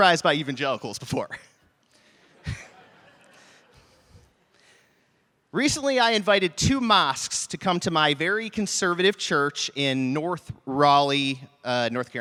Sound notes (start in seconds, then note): 2.2 laughter